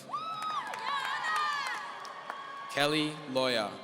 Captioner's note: audience cheering